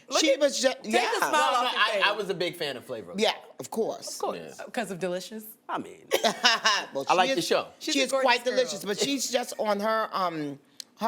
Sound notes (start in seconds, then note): 8.6 laughs